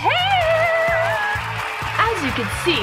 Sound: audience applause

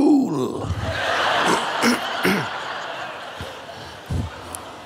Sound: crowd laughs

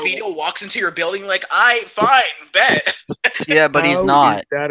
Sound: laughing

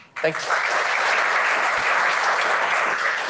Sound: applause

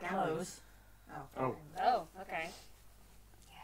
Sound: various noises of confusion/disgust

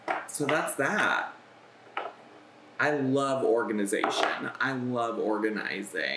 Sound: none

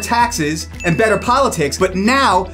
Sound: graphics ding

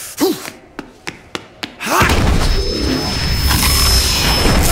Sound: running footsteps

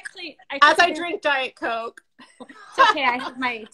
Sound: laughs

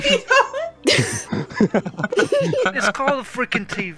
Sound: laughter

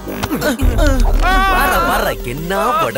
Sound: groans

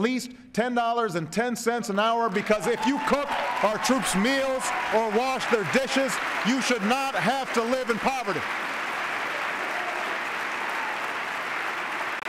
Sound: cheers, applause

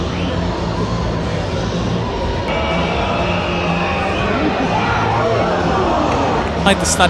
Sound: crowd cheering

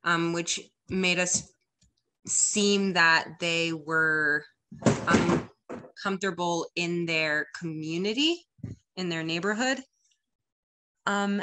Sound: crash and thud

